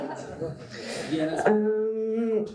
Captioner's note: laughter